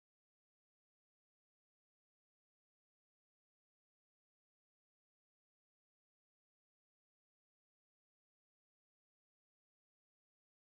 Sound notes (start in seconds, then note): none